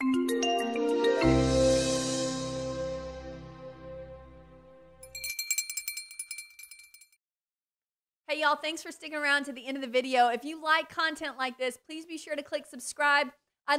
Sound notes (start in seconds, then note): 0.0 upbeat digital music; 5.0 ringing